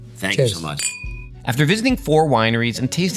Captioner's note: glasses clinking